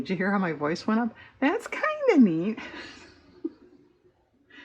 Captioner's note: laughs